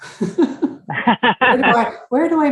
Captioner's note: laughs; laughing